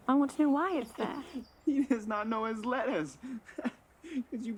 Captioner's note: laughs